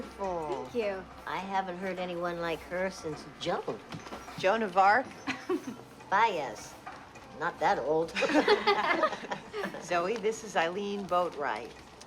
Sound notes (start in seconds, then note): 5.2 chuckles; 8.1 laughing